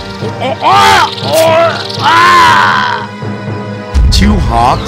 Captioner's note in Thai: ร้อง